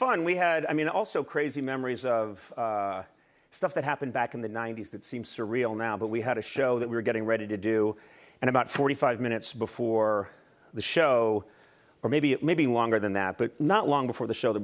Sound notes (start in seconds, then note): none